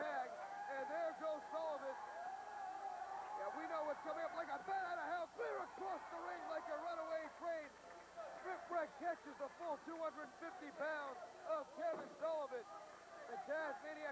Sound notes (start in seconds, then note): 3.6 crowd cheering